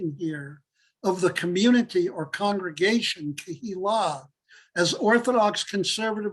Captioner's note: Hebrew